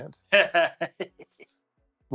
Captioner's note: laughing